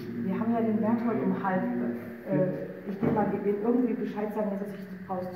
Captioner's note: in German